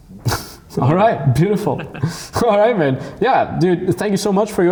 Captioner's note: laughs; laughing